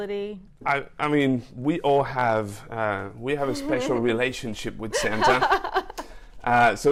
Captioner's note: laughs